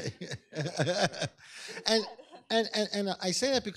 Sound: laughs

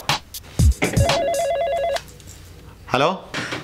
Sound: phone rings

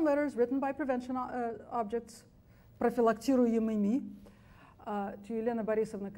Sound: speaks foreign language

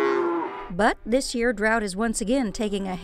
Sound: cows mooing

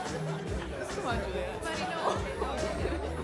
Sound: chuckles

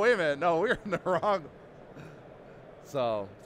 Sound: laughing

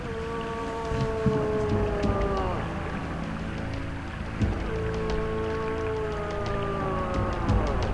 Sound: bellows

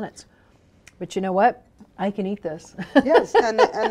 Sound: laughing

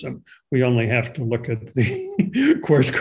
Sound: chuckles

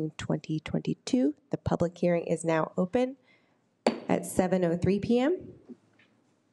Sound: gavel bangs

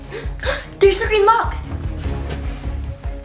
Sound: gasp

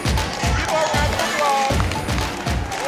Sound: applause

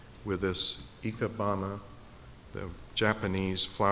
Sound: speaking in foreign language

